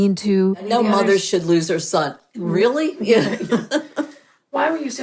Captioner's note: chuckles